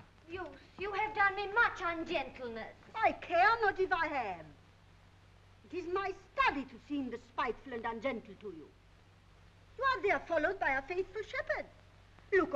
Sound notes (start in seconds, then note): none